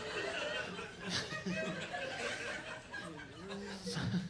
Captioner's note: laughing